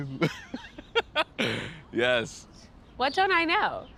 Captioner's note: laughs